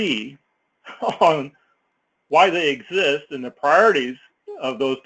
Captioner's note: laugh